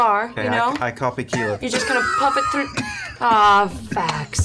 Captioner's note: coughs